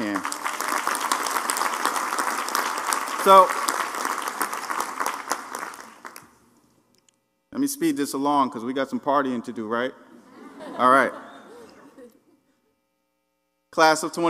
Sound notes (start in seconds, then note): 0.0 applause; 10.2 laugh